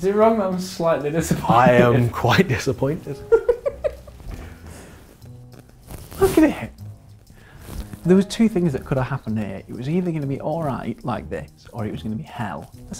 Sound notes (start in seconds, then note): 3.2 laughter